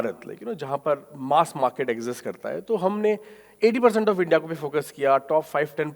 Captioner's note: speaking in foreign language